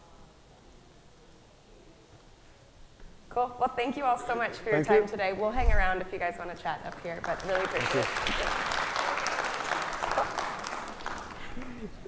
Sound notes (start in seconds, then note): 8.5 audience applauding